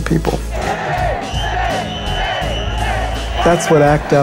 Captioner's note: chanting